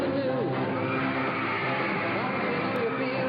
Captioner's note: crowd cheering